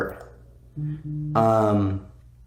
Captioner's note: phone vibrating